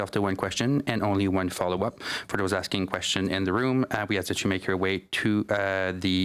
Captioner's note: speaking French